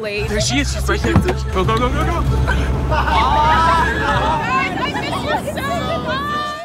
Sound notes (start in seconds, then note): 1.9 laughter